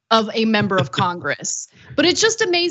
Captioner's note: laugh